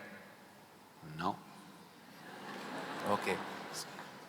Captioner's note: laughter